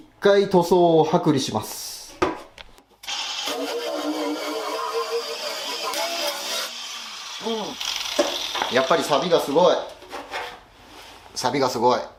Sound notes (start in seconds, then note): 3.1 working sound